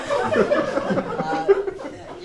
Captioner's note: audience laughs